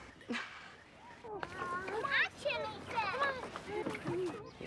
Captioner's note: children babble